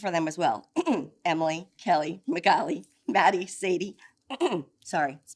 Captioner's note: clears throat; clears throat